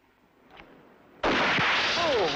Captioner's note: gun fires